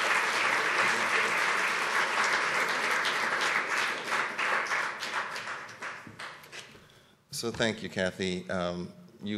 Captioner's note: applause